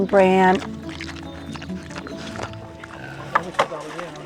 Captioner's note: munching